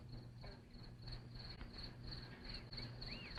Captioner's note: crickets chirping